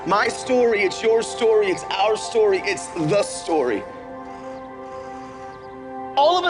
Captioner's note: school buses whirring